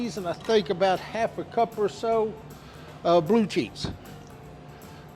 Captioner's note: none